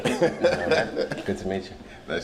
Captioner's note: laughs